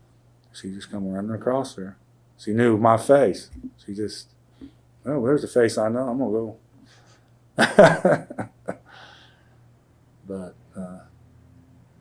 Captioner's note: laughs